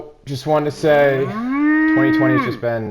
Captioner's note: cow mooing